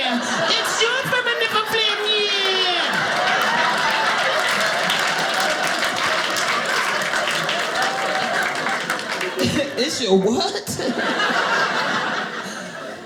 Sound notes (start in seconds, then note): 3.4 audience laughing; 10.9 audience laughing